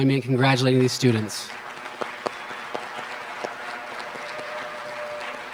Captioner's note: applause